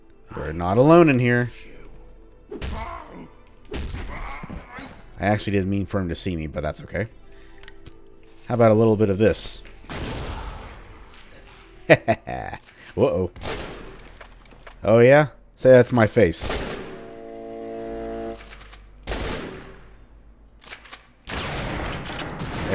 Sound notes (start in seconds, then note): 10.0 kaboom; 13.4 Manslayers Shotgunning